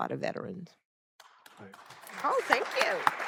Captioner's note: applause